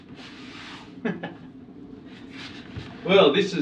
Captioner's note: laughing